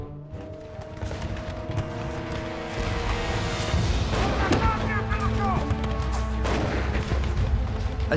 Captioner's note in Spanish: Explosiones, disparos